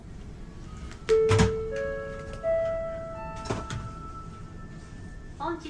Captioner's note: ship's announcement chime